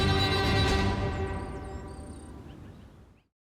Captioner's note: birds chirping